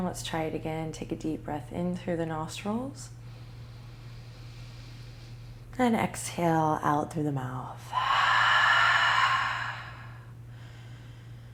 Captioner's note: breathing